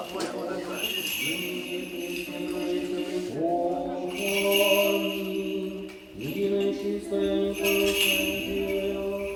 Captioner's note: chanting in foreign language; soft music